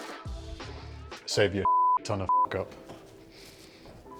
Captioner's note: beep